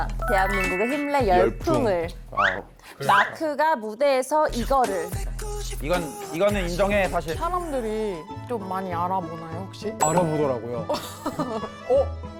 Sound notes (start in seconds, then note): 0.2 Sound effect of the Hip-Ray challenge going viral; 2.2 greeting sound